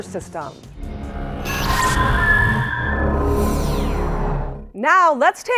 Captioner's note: sound Effects